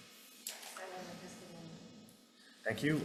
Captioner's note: testifier speaking faintly